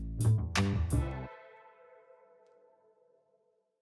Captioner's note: whooshing